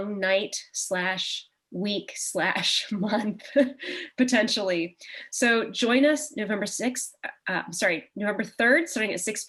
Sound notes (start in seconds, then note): 0.8 chuckle